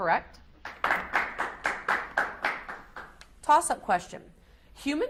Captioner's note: audience applauds